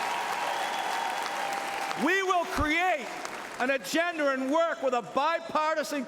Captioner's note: cheering and Applause